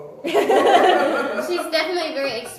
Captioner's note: laughs